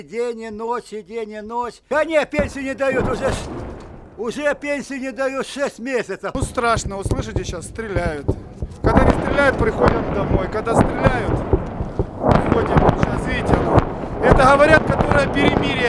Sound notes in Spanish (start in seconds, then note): 2.4 Explosión cercana; 7.0 Explosiones acercándose; 13.9 Explosiones muy cercanas